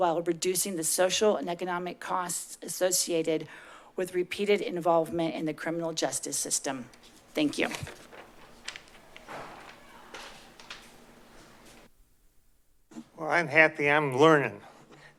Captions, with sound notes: while reducing the social and economic costs associated with repeated involvement in the criminal justice system. Thank you. [paper shuffling] [footsteps] - Well, I'm happy. I'm learning.